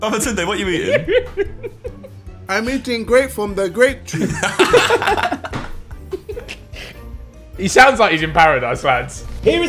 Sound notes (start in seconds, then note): 4.1 laughs